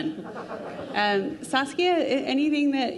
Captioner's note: crowd laughing